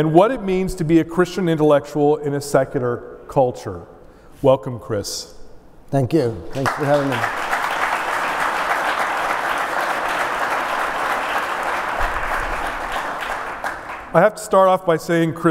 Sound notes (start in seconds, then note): 10.9 applause